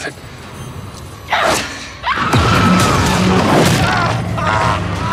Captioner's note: Eleven grunts and screams; Papa thuds and screams